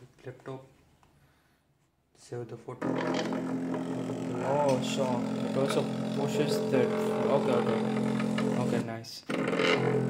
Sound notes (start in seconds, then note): 2.8 sound of stepper motor pushing an impeller